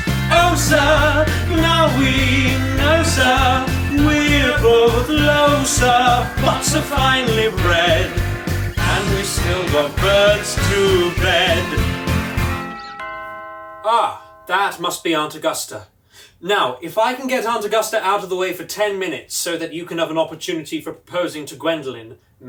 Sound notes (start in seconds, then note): 10.7 doorbell rings